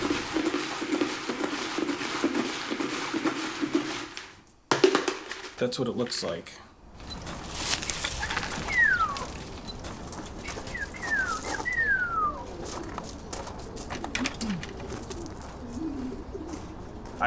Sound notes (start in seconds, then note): 0.0 feed rustling; 8.8 whistling